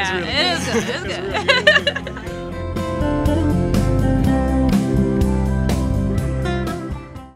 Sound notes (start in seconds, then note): 0.2 laughing; 1.6 soft music